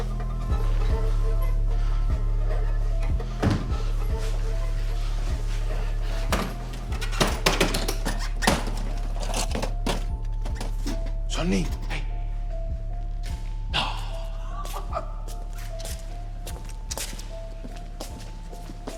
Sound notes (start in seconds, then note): 6.2 tapping; 13.7 laughs; 14.6 footsteps